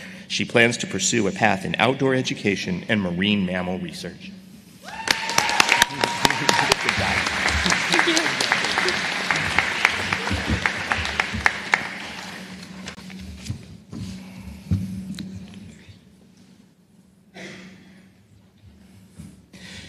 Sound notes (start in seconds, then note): 4.9 applause